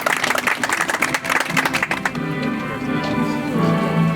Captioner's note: audience applauds